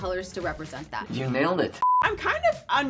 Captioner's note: screen beeps